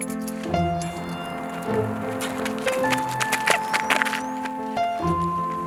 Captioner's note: footsteps running